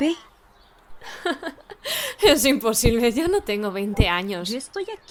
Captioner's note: laughs